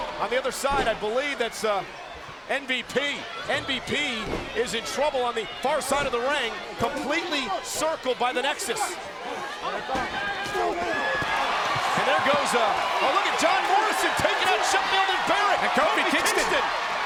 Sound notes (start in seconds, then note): 9.1 crowd yelling; 9.1 wrestlers chattering; 10.8 crowd cheering; 10.8 wrestlers grunting